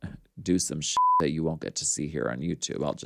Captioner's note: beep